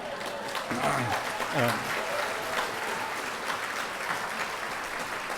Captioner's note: audience cheering